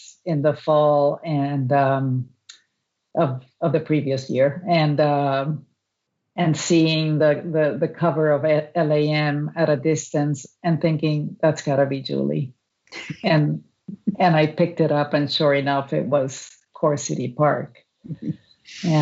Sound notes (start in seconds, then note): 12.6 laughs